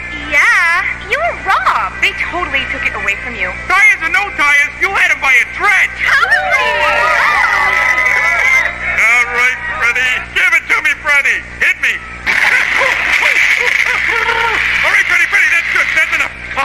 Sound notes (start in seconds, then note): 6.0 crowd cheers; 12.3 yelling, sputtering